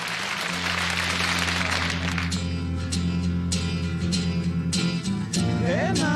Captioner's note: applause